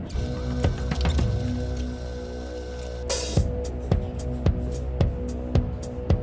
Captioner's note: tense music; videotape squealing